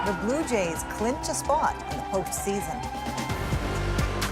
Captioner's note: cheers and Applause